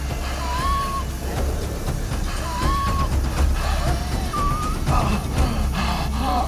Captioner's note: tense music; Nick gasping